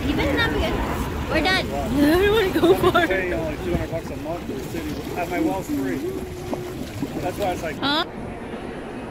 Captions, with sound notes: We're done! Eh, I don't wanna go far. (people converse) (water burbles) Huh?